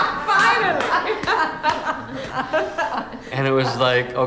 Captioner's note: laugh